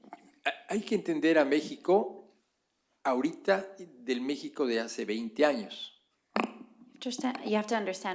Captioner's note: speaking spanish